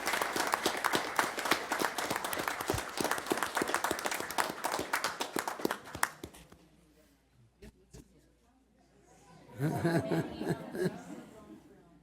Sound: applause

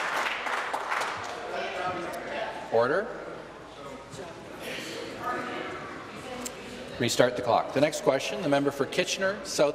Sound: applause

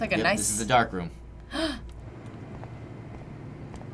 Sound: gasps

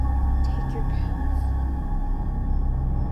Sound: whispering

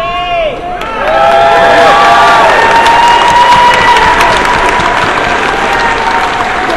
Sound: cheers

